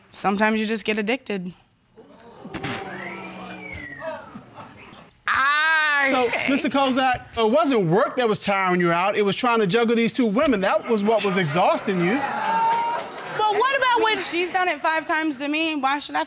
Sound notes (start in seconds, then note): 1.9 audience groaning; 2.8 man whistling